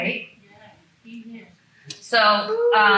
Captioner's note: faintly speaks